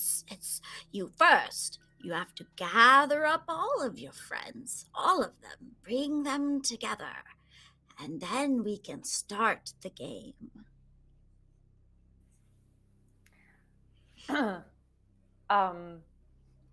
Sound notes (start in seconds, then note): none